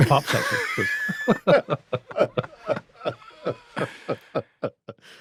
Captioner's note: everyone laughs